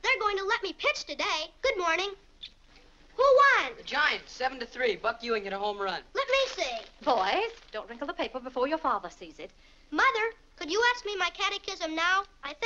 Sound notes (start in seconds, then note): 6.2 paper rustling